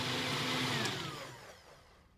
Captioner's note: blender whirring